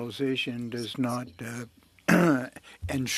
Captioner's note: speaking French